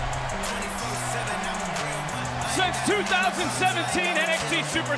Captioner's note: crowd cheers